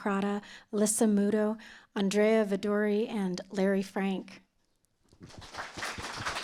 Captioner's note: applause